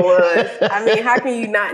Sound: laughs

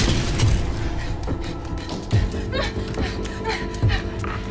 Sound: panting

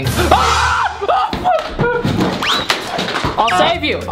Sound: screams

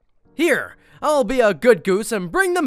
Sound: none

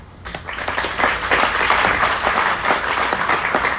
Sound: audience applauds

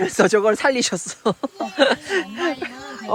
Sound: laughing

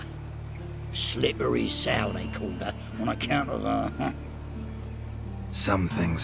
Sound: chuckle

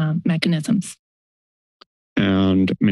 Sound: silence

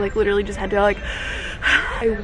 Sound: deep breath

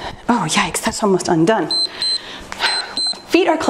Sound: timer beeps

